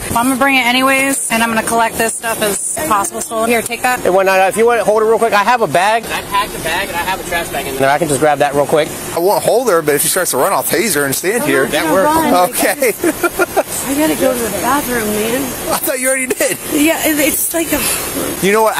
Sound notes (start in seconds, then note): 12.0 laughing